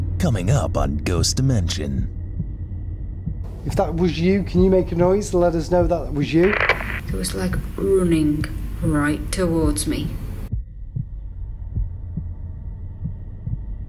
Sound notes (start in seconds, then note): 6.3 static crackling; 10.4 suspenseful music